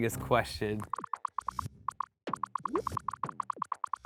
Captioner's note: popping